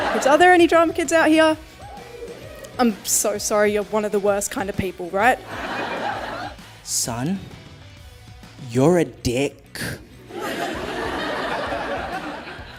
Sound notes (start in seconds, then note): 5.4 audience laughs; 10.3 audience laughs